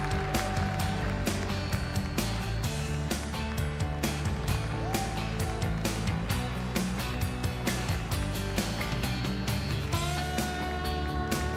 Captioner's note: cheering and applause